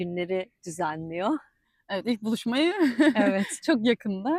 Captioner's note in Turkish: kahkaha